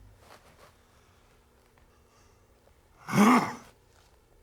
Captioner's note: growls